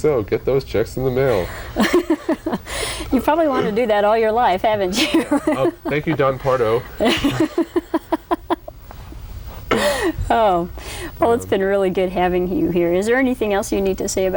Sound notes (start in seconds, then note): 1.3 laughter; 7.2 laughter